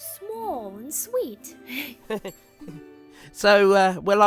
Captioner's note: gilbert giggles embarrassed